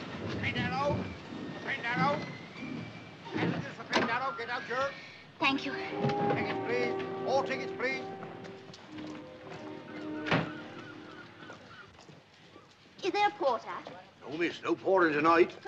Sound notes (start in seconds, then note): 9.1 seagulls cry